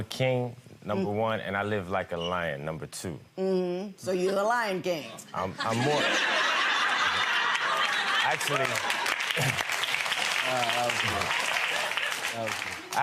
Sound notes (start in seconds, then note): 5.4 audience laughter; 8.8 audience applause